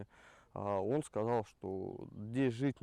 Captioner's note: speaking Russian